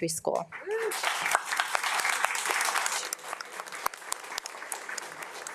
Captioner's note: audience applauds